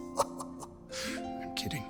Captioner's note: chuckles